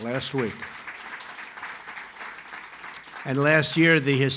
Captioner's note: applause